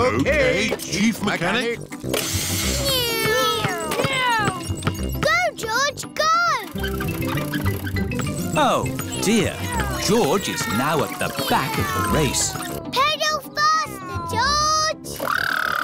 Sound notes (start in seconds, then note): 2.7 whirring